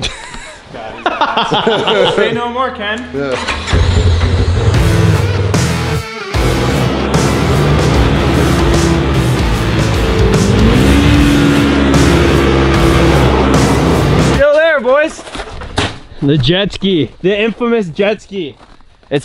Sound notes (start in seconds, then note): 0.0 laughs; 4.2 engine roars; 5.3 metal music